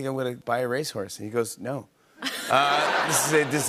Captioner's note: laughter